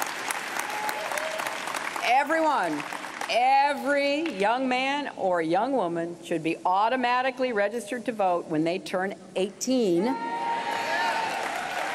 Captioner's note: applause